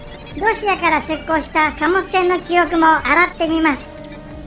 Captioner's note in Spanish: none